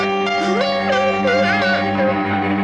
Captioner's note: cries